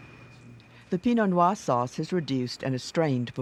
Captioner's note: voiceover